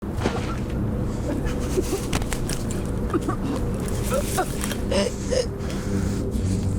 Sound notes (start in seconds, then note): 0.0 Sarah grunting; 0.0 punch smacking